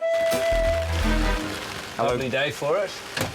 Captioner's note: rain patters